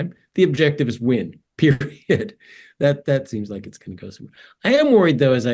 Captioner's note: laugh